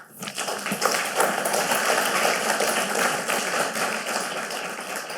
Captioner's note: audience appluading